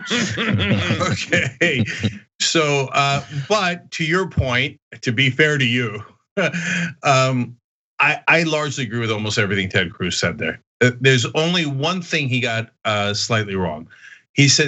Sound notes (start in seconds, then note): 0.0 laugh; 6.4 laugh